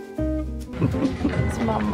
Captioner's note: laughter